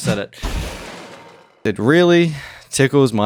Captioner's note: crash